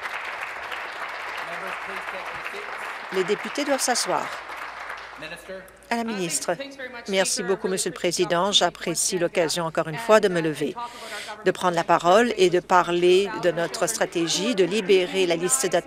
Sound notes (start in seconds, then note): 0.0 applause